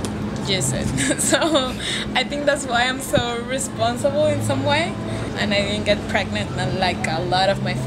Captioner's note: laughs